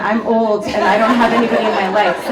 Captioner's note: audience laughs